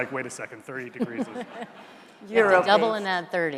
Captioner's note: all laughing